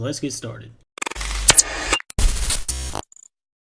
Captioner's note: intro Sounds